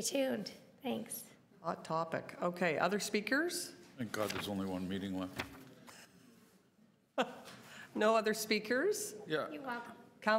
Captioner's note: laughter